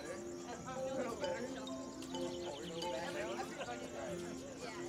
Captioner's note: people chattering